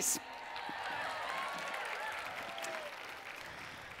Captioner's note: cheering and Applause